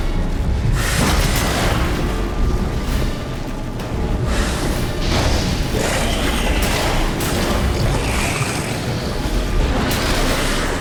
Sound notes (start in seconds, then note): 5.0 flames whoosh; 7.5 hound growls